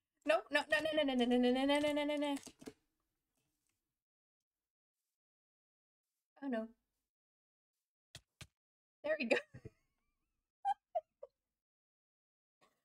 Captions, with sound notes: No no no no no no no no no no no oh no There we go *laughs*